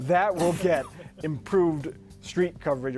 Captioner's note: laughter